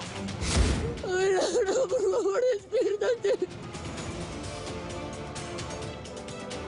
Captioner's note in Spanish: Sollozos